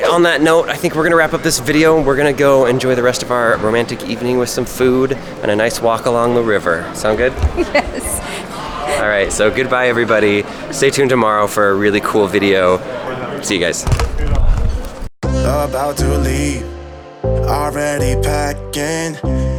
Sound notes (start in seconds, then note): 7.3 laughs